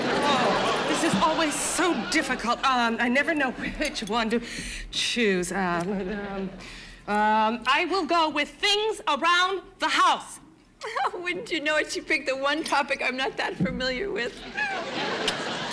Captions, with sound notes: Oh, this is always so difficult. Um, I never know which one to... choose. [stammering] Um, I will go with "Things Around The House." [laughing] Wouldn't you know it, she picked the one topic I'm not that familiar with. [audience laughing]